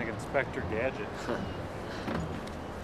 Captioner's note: laughs